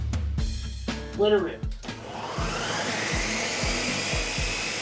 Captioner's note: upbeat music; blender whirring